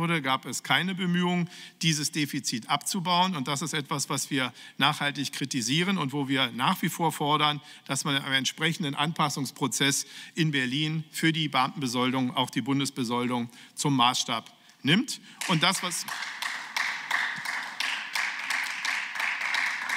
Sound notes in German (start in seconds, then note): 15.4 Beifall